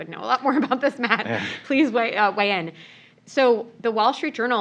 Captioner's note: laugh